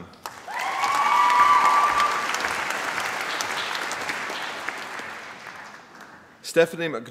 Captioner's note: applause